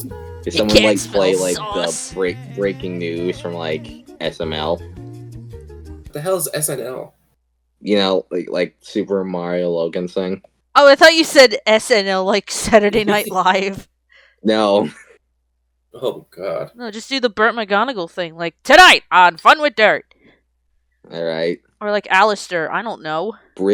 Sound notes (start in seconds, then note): 0.6 laughs; 14.6 chuckles; 18.9 impersonating Burt McGonagall